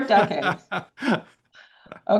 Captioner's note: laughter